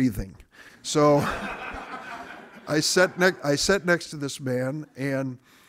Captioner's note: audience laughing